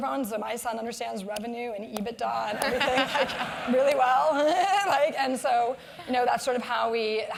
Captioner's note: laugh